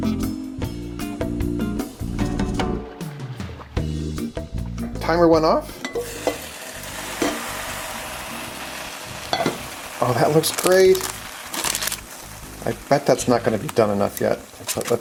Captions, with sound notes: Timer went off. (slow cooker sizzling) Oh, that looks great. I bet that's not gonna be done enough yet,